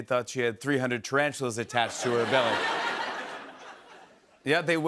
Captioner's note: laughter